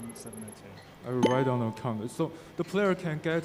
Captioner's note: game beeping